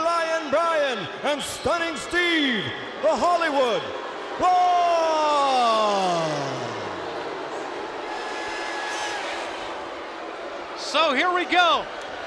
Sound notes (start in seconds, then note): 4.0 crowd clamoring